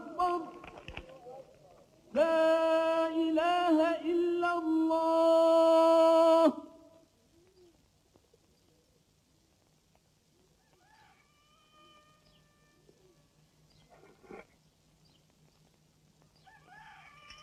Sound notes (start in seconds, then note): 10.6 rooster crowing